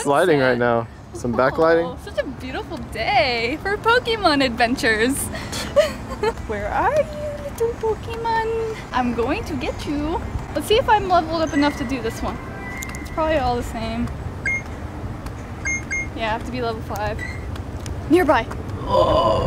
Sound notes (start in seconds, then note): 5.2 laughs; 5.6 DJ scoffs; 15.5 beeps